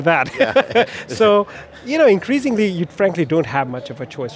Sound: laughs

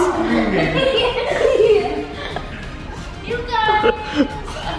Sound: laughing

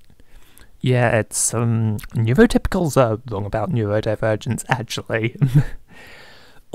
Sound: laughing

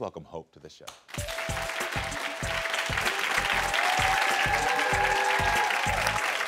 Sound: audience cheering and applauding

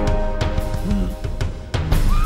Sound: gasps

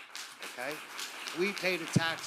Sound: audience applauding

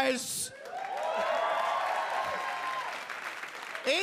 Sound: audience cheer

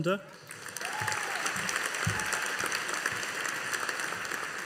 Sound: audience applauding

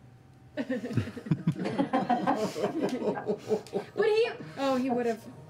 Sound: laughter

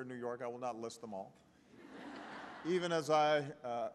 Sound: laughter

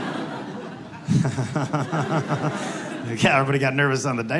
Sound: laughs to himself

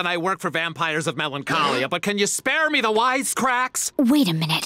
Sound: gasping

